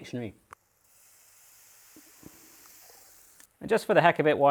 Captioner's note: sizzling